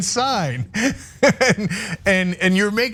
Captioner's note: laugh